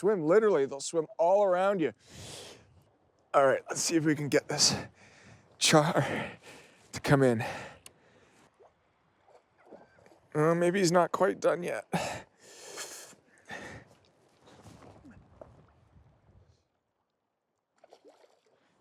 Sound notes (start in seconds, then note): 13.3 heavy breathing